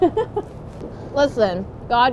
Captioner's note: giggling